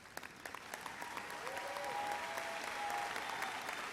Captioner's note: audience applauds